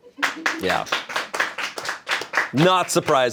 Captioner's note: crew applauds